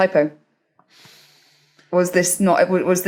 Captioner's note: inhales softly